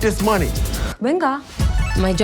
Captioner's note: speaking spanish